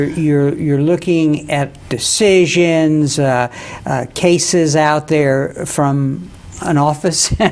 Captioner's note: laughs